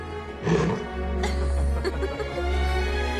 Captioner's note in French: rires